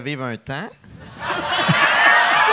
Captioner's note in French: rires